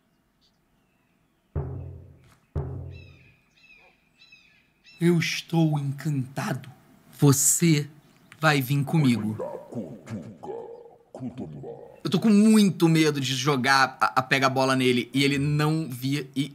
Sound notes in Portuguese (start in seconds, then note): 1.4 som de batida na barriga